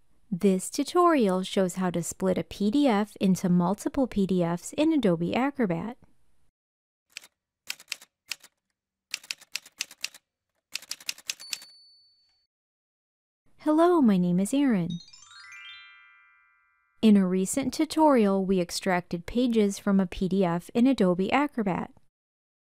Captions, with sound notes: This tutorial shows how to split a PDF into multiple PDFs in Adobe Acrobat. [Typewriter sounds] Hello, my name is Erin. [Chime sound] In a recent tutorial, we extracted pages from a PDF in Adobe Acrobat.